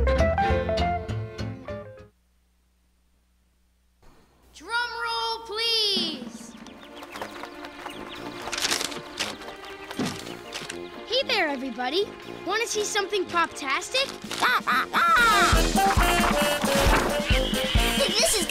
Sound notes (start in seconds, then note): 5.9 drum roll; 14.1 quacks; 16.1 playful music